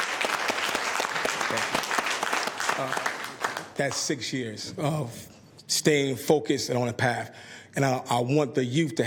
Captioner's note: applause